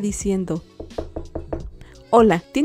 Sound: knocking of the door

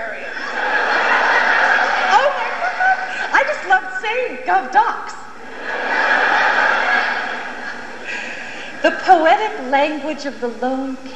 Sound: wistfully

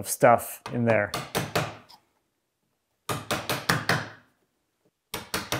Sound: hammer banging

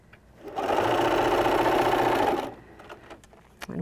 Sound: machine sewing

